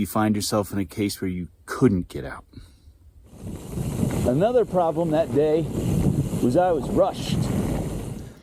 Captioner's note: mountain bike whirring, gravel crunching